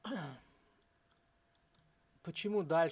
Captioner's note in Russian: откашливается